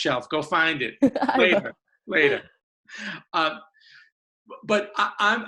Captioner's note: laughs